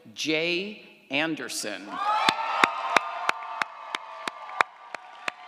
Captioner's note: audience applauds & cheers